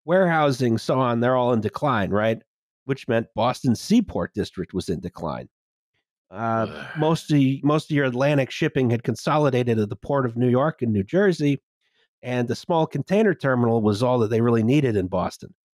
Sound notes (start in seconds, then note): 6.4 blehhh